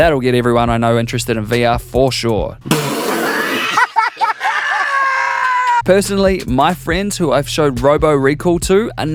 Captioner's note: cough